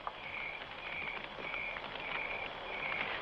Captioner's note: fire crackling